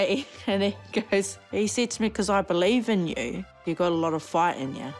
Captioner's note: chuckles